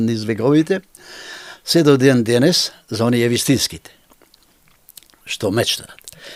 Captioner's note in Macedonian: тешко дишење